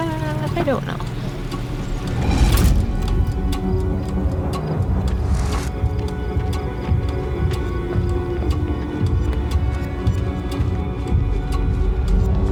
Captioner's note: tense suspenseful music; clock ticking